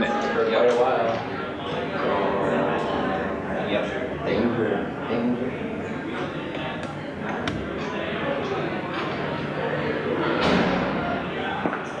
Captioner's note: background chatter